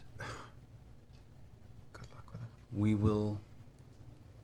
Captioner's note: whispers